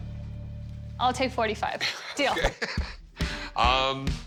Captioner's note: laughs